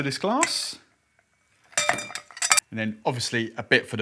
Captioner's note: ice clinking